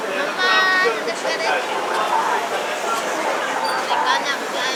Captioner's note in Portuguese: Falando na língua guarani